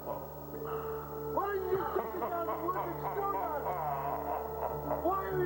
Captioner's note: distorted laughing